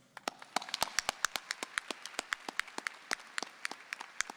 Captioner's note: audience applauding